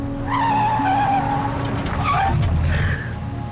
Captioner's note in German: Reifen quietschen